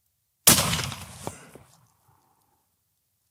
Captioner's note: gunshot